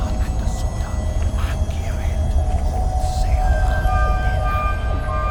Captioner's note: intense Celtic whispers